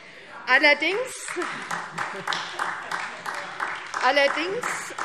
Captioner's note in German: Beifall SPD